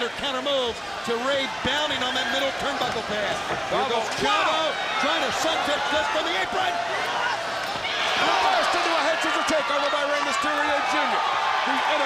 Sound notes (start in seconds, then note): 7.5 crowd cheering